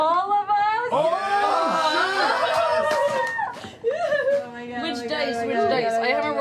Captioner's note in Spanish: vitoreando